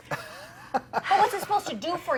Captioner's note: laughing